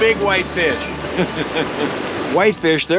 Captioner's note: chuckling